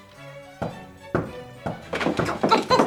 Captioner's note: knocking